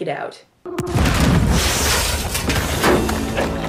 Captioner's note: big gunshot